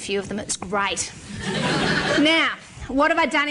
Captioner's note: laughter